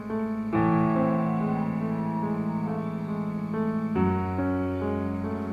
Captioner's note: owl calling